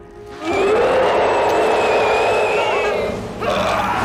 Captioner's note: screeching